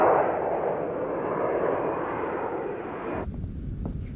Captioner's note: engine whooshing